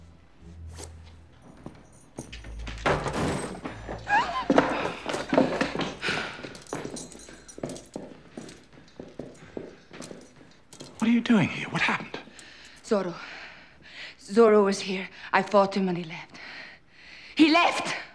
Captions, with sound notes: [DOOR OPENS] [GASPS] What are you doing in here? What happened? Zorro. Zorro was here. I fought him, and he left. He left!